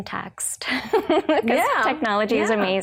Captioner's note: laughs